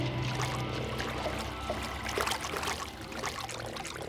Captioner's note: water splashing